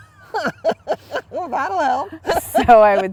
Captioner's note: laughter